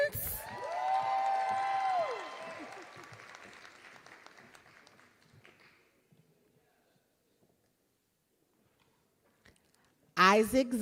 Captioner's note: applause